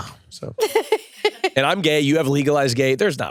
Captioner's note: laughs